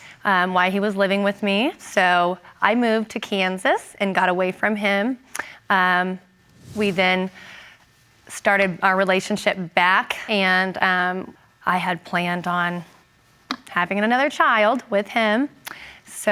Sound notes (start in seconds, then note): none